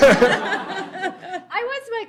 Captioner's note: laughter